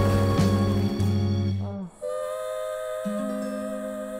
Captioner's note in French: gémissement